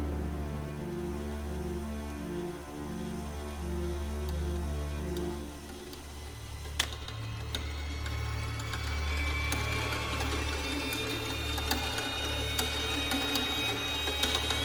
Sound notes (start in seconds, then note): 3.3 whirring